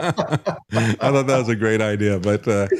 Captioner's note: laughing